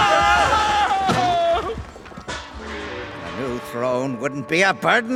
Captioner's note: screaming